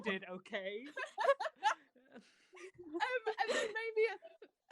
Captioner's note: laughter